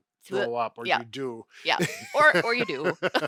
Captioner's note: laughing